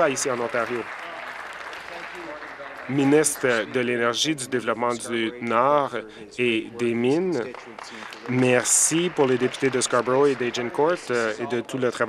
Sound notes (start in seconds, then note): 0.0 applause